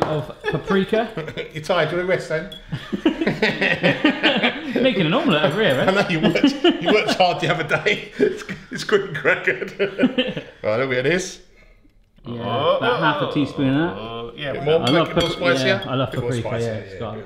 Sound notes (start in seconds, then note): 2.8 all chuckle; 13.8 loud clamouring